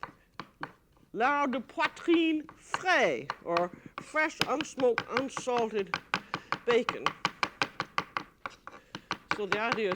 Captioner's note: speaking french